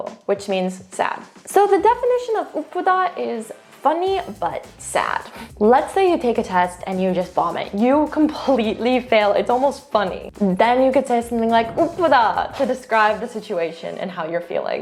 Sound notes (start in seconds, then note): 0.0 speaks in Korean; 3.0 speaking in Korean; 11.9 speaks in Korean